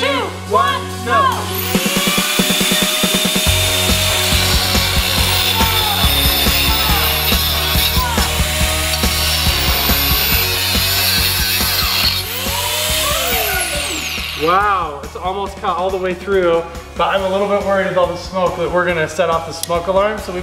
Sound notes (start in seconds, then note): 1.4 saw buzzes